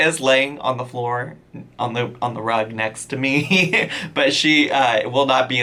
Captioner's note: chuckles